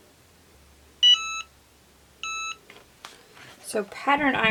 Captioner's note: EasyPress beeping